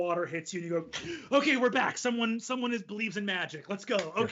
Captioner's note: gasps